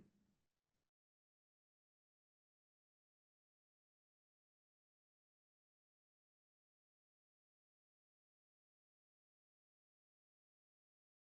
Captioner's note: silence